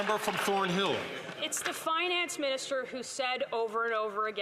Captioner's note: some Applause